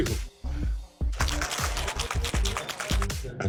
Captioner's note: ice rattling